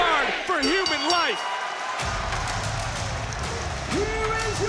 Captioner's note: bell dings